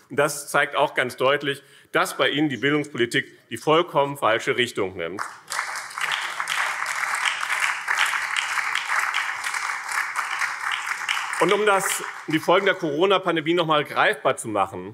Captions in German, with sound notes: Das zeigt ganz deutlich, dass bei Ihnen die Bildungspolitik die vollkommen falsche Richtung nimmt. [Beifall BÜNDNIS 90/DIE GRÜNEN und vereinzelt Freie Demokraten] Um die Folgen der Corona-Pandemie greifbar zu machen,